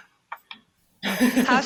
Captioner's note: chuckling